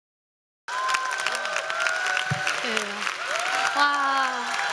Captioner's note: applause